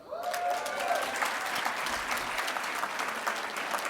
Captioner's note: audience applauding